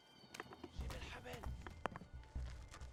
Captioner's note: speaks in arabic